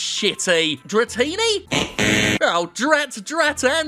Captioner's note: buzzer buzzes